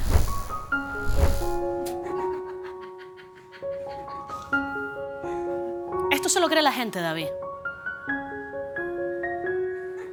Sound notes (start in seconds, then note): 0.5 melodic music; 2.0 laughter